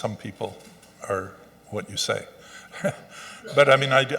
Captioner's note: Angus chuckles